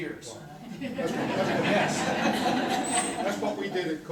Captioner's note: corporate laughter